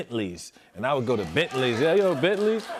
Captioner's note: applause